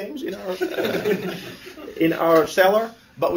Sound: laughter

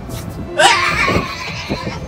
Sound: ryan screams and runs away

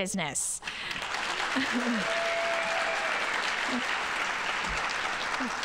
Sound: audience applauding

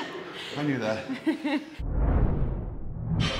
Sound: laugh

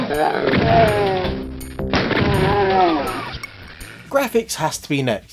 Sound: music and shooting sounds again!; music and shooting sounds continue

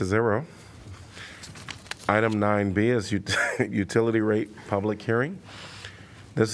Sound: laughter

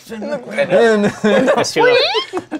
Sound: laughter

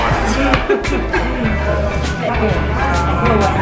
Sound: chuckling

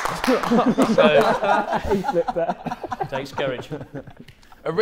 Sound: applauding; Sidemen laughing

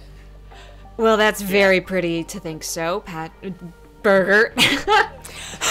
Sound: laughter

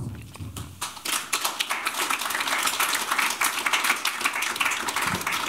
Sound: applause

